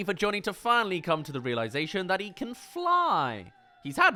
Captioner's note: screams